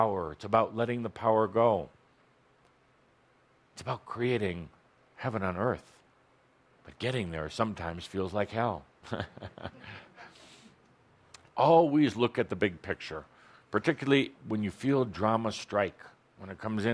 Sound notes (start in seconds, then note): 9.0 chuckles